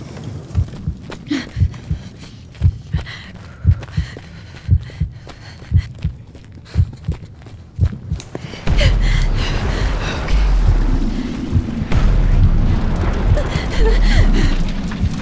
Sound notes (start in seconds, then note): 4.5 heart beat